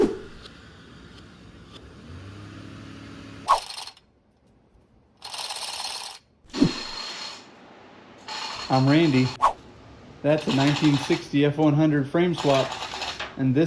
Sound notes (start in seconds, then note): 3.5 chain hoist noises; 8.2 chain hoist noises but further away